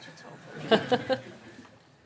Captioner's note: laughter